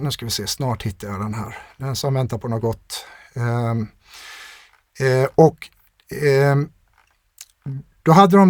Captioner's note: scoffs